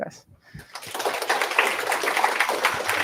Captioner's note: applause